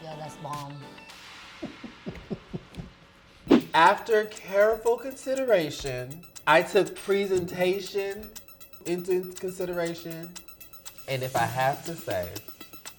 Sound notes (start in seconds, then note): 1.6 laughing